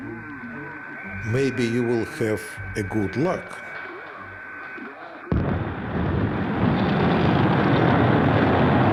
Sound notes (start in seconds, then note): 3.6 man speaking on radio; 5.3 rocket engines igniting